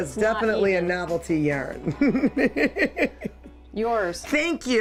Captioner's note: laughs